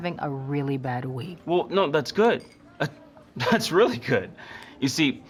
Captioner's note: chuckles